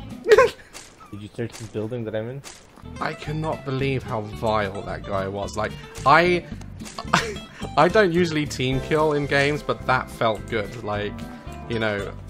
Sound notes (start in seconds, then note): 0.2 laughs; 2.8 normal voice